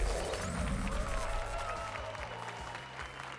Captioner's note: applause and cheers